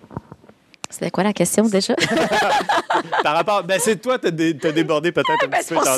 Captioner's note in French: rires